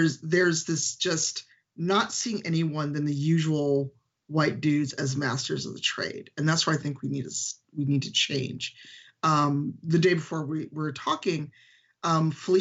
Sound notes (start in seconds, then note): none